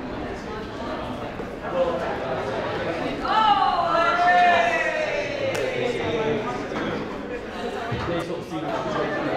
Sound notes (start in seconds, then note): 3.1 people cheering